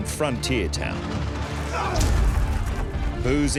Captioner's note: men brawling